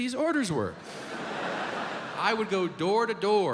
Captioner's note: audience laughs